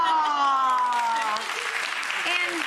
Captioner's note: audience clapping